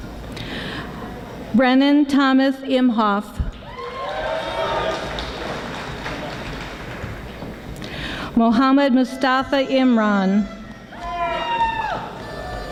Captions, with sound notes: Brennan Thomas Imhof (audience applauding) Mohammed Mustafa Imran